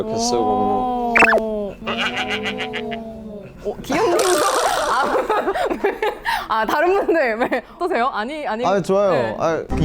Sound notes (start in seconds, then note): 4.0 looks away / Bursts out laughing